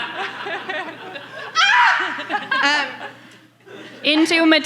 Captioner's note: screams